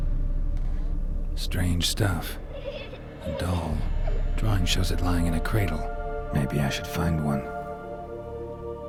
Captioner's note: child's laughter, distorted and faint